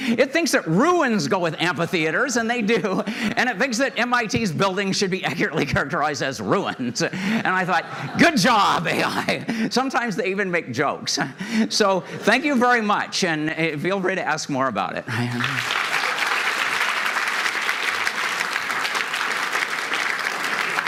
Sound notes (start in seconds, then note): 6.7 laughter; 15.2 applause